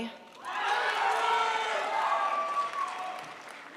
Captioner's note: crowd applauds